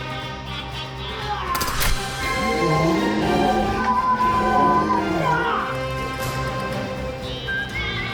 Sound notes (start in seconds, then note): 2.2 zombie spartacus groaning; 2.4 bucky grunts